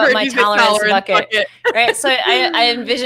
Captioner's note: laughs